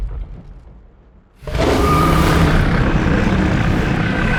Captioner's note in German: Drache brüllt